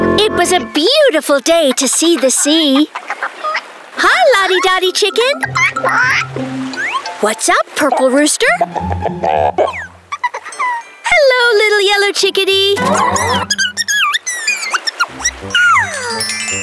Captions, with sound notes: It was a beautiful day to see the sea. -Hi, Lottie Dottie Chicken! -[clucking] -What's up, Purple Rooster? -[clucking] -Hello, Little Yellow Chickadee. -[chittering]